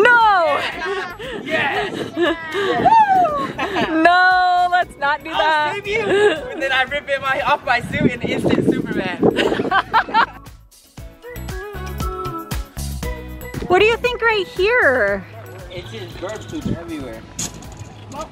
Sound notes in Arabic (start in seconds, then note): 3.3 يضحك; 9.4 يضحك; 11.0 موسيقى مبهجة